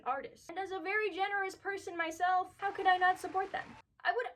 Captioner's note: applause